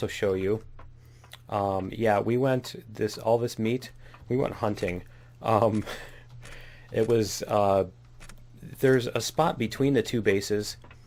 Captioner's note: laughs